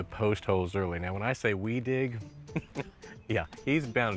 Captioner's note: chuckles